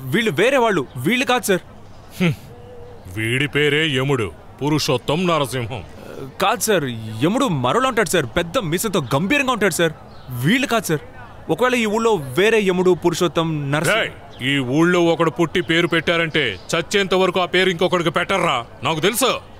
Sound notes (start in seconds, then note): 2.1 chuckles